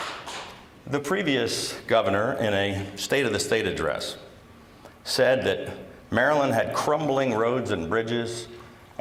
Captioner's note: applause